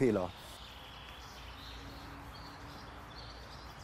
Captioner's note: birds chirping